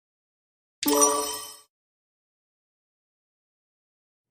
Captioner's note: sonido de timbre correcto